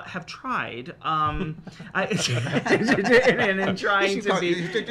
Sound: laughs

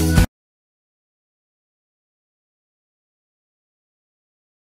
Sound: silence

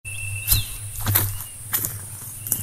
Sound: footsteps

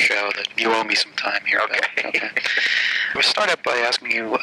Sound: laughing

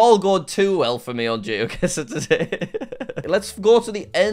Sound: laughs

